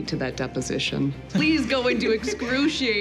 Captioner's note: laughter